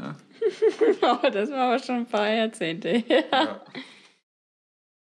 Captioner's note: laughs